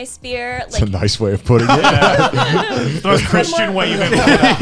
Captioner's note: laughing